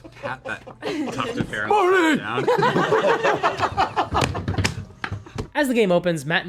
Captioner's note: laughter